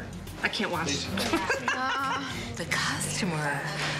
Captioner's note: laughs